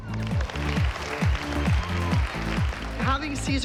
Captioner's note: applause